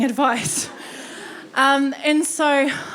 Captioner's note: audience laughing